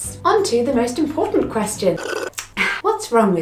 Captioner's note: slurping